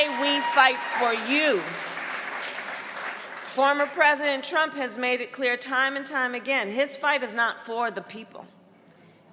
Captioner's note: applause